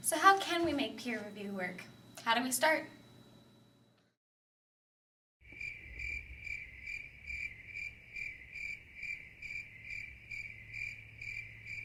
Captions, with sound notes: - So how can we make peer review work? How do we start? (crickets chirping)